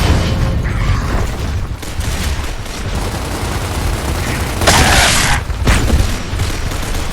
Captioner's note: avatar grunting; guns booming; guns clacking